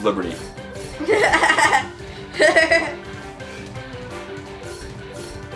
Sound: assistant laughing

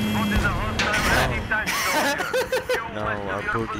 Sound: hysterical laughter

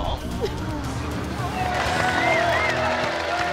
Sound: crowd cheers

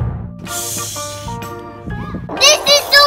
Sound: shushes

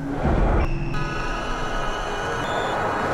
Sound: horn honking; tires screech

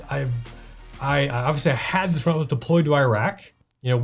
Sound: none

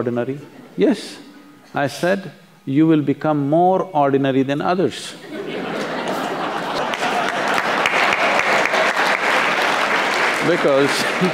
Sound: laughter/Applause; laughs

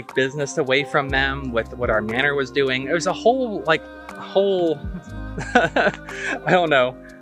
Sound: gestures broadly and laughs

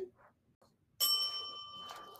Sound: bell dings

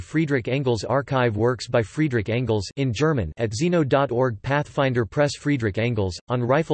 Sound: in German

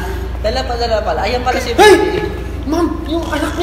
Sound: yells

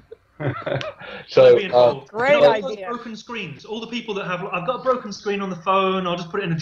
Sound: laughter

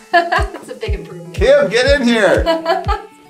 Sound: laughing

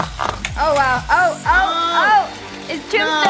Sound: shouts of excitement

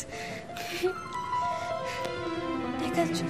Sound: Ella giggles

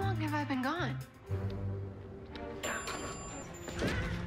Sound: elevator bell dings

